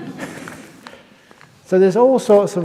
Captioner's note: laughs